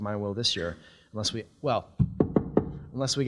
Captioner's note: knocks on podium